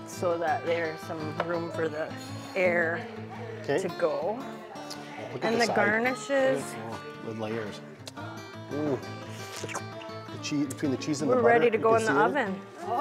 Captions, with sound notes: so that there's some room for the air-- - Okay. - To go. And the garnishes-- - The layers. Ooh. (smacks lips) Between the cheese and the-- - We're ready to go in the oven.